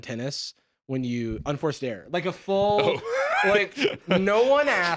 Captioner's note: laughs